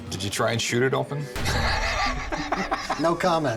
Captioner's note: laugh